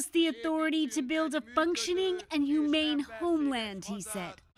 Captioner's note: speaking alternate language